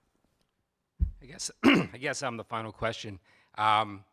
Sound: man clears throat

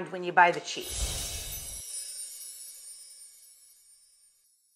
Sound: slide chiming

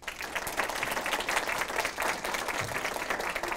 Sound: applause

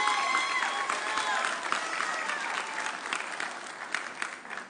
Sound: audience cheering

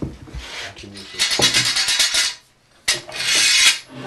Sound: metal clatter

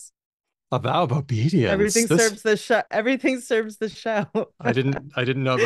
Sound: laughs

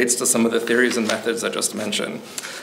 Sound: pages rustling

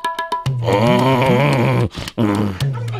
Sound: grunts

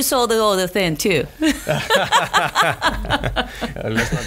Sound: laughs

